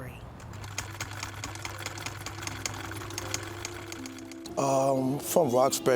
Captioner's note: sewing machine chucking